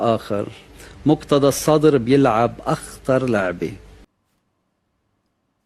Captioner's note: Lebaneese accent